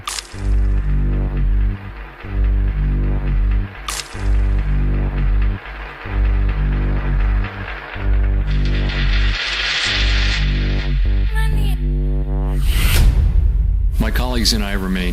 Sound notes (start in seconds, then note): 4.5 applause